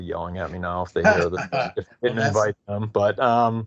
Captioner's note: laughing